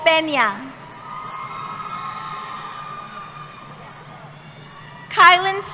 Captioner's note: cheering